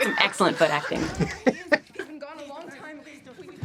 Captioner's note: laughing